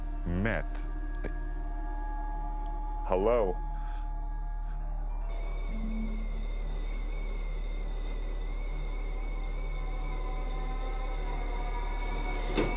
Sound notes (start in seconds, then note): 5.7 loud whistling; 5.7 ominous music